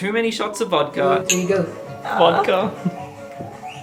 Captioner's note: speaking foreign language